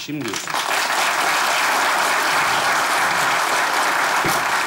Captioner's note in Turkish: Alkış sesleri